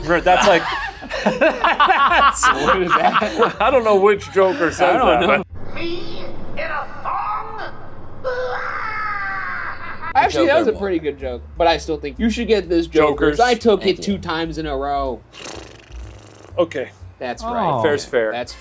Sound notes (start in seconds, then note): 0.0 group laughs; 9.3 laughs